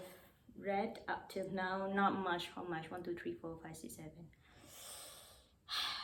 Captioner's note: deep sighs